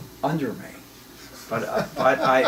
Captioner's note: laughs